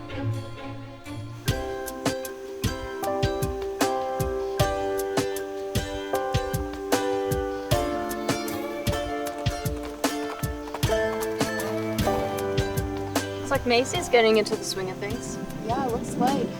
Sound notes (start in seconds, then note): 1.3 light music; 8.3 hooves clopping